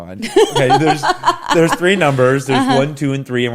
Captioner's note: laughs